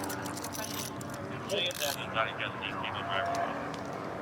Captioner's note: dispatch chatter